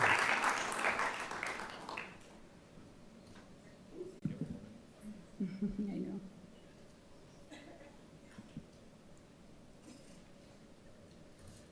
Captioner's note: applause